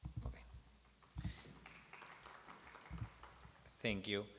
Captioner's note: applause